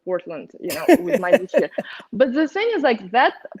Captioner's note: Garyvee laughs